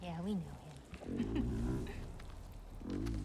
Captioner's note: laugh